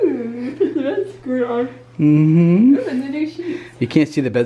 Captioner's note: yawns